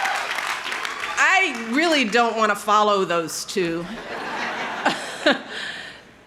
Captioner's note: laughs